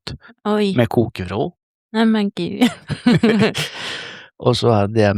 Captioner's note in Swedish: skratt